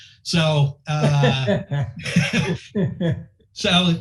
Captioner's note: laughing